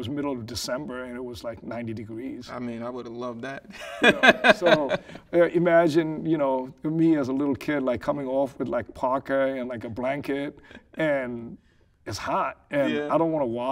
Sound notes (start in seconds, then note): 3.8 laughing